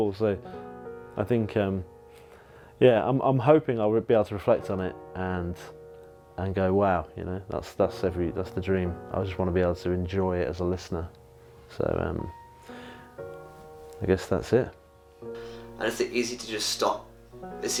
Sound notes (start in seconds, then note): none